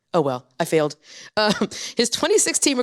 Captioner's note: chuckles